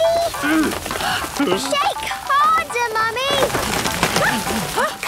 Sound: all groaning; exclamations

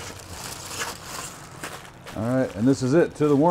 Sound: foil clanging

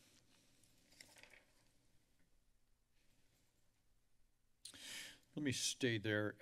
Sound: papers flipping

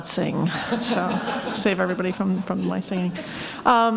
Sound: laughing

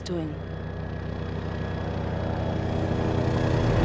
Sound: helicopter approaching

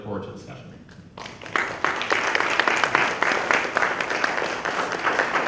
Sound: applause

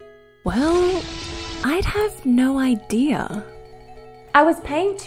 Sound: muffled screaming

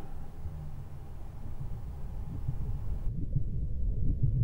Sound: distant metal bangs

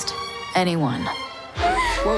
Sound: baby crying

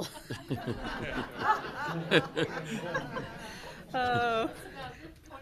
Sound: people laughing

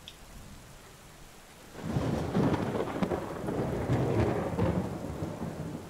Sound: thunder crackles; rain trickling in distance

